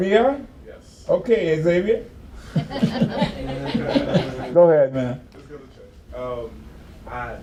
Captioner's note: laughs